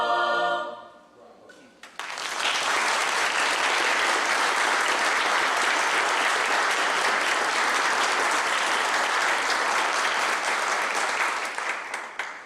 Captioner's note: clapping